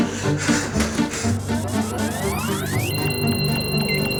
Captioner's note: tense music; machinery beeps; ethereal music